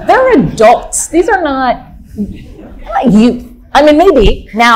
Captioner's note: audience laughing